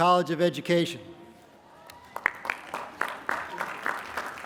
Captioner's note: applause